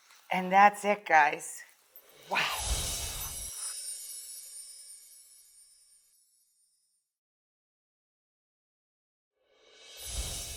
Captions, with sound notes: And that's it, guys, wow. (air whooshes) (wind chime music)